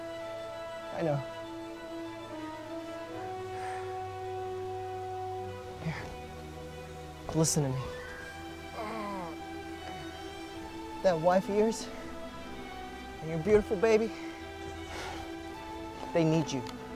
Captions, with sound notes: I know Here Listen to me *Groan* That wife of yours And your beautiful baby They need you